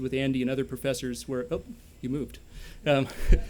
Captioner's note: laughter